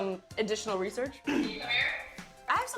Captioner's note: clears throat